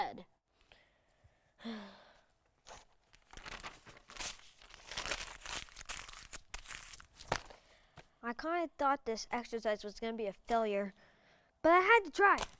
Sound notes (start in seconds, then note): 4.3 paper rustling